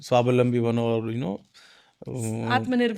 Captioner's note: speaking in foreign language